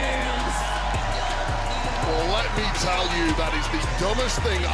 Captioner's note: audience cheers